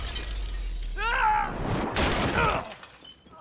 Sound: scream

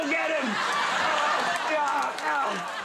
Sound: audience laughing

